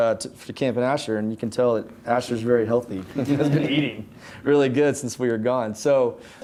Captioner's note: everyone laughing